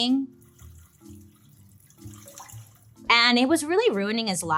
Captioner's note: liquid trickling